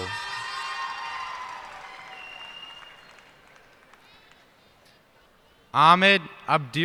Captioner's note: cheers and applause